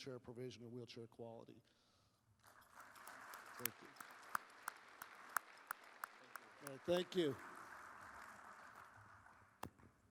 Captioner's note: applause